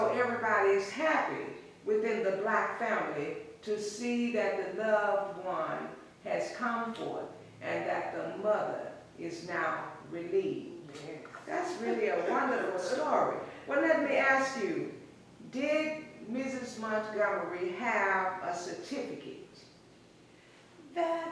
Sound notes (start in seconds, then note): 11.4 laughs